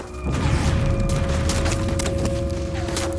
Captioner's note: gunfire